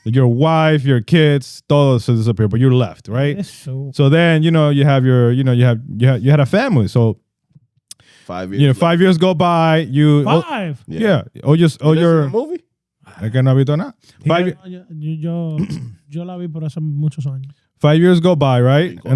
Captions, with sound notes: Your wife, your kids, those disappear, but you're left, right? So then, you know, you have your, you know, you have, you had a family, so. Five years. Five years go by, you. Five. Yeah, oh, you're. This is the movie? I cannot be done that. (Speaking In Foreign Language) Five years go by, right?